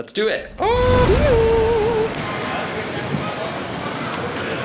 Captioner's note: lightning zapping